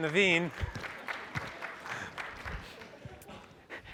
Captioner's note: applause